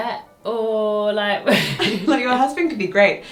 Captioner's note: both laugh